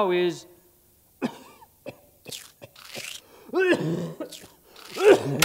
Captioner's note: coughs